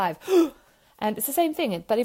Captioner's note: gasping